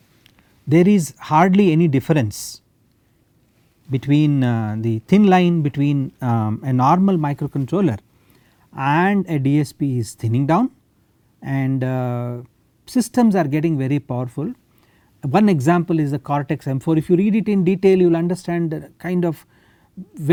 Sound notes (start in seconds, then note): 9.2 static power